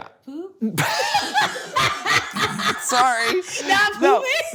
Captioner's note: both laughing